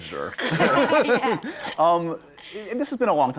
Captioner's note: laughter